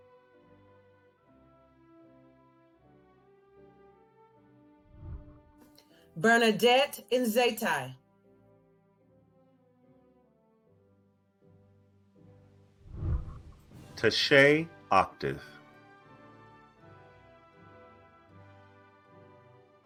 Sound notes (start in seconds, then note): 4.9 whooshing; 8.3 celebratory music; 12.8 whooshing; 16.6 celebratory music